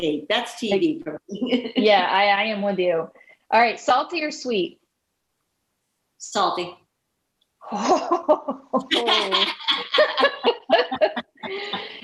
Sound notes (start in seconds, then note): 1.4 chuckling; 7.7 laughing